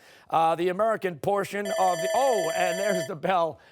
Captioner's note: timer